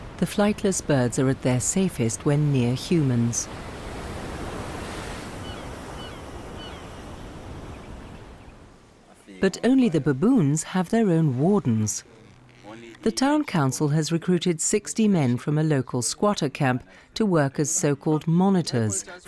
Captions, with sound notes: The flightless birds are at their safest when near humans. (birds squawking) But only the baboons have their own wardens. The town council has recruited 60 men from a local squatter camp to work as so called monitors